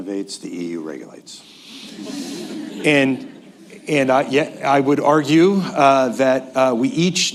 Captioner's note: laughter